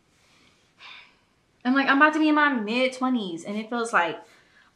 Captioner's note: sighs